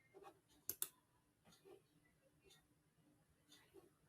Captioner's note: mouse clicks